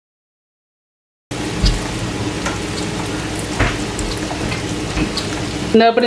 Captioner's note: frying sound